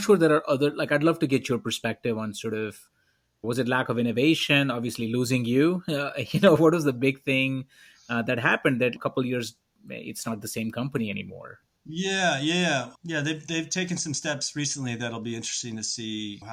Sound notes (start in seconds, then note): 5.8 laughs